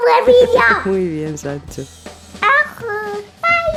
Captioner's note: laughs